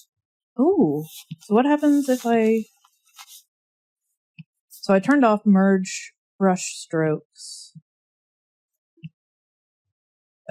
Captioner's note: drawing noises